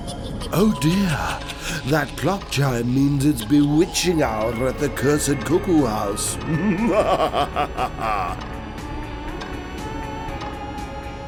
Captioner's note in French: rire diabolique